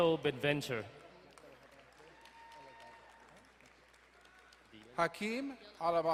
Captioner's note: distant cheering